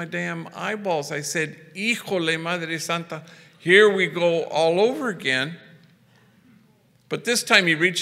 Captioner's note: foreign language